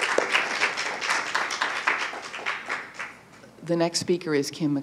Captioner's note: applause